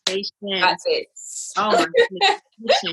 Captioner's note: hands clap